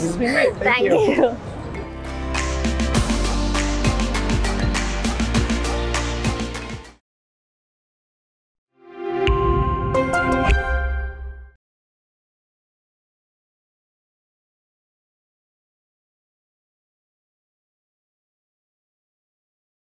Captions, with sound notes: This has been great. - (laughs) Thank you. - Thank you. (upbeat music)